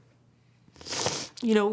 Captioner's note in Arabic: شخير